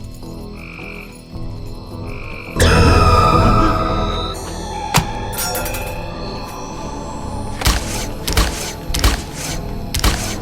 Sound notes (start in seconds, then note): 2.8 dramatic music; 4.8 crunching; 4.8 knife rattling; 7.6 crunching